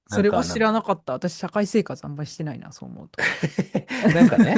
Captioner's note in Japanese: 笑い